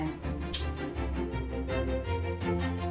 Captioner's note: smooch; urgent cello music